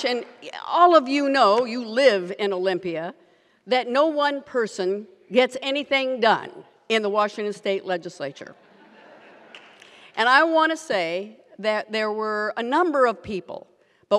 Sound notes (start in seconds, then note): 8.6 audience laughs